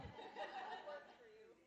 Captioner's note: audience laughing